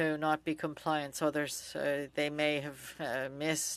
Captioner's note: speaking French